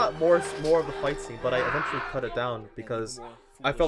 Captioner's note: Vincent screams